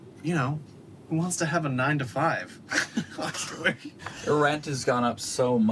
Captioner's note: laughs